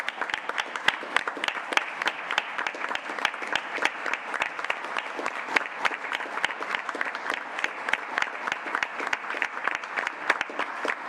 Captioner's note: applause